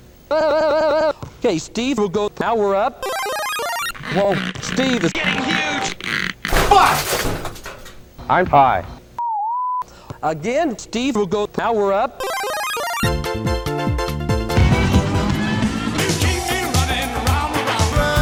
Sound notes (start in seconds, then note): 3.0 Mario powerup sound; 5.9 stretching noises; 6.5 smash; 12.3 Mario powerup sound